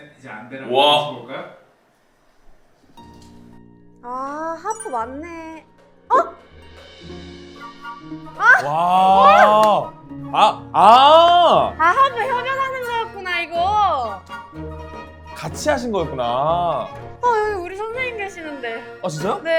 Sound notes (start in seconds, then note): 8.4 exclaims in awe